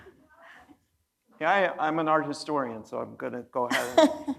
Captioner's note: laughing